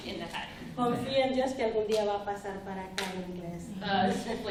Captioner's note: speaking spanish